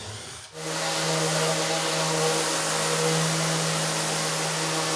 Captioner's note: drill whirring; sander whirring